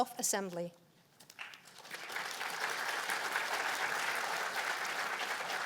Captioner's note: applause